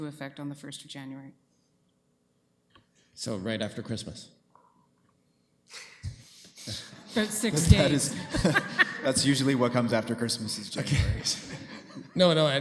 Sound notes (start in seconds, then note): 6.6 group chuckling; 9.6 woman laughs